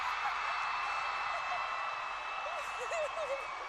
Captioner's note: screaming and cheering; laughing